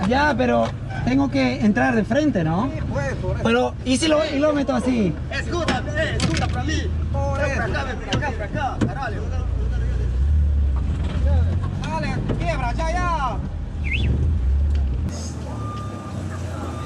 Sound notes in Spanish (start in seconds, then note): 6.7 gritando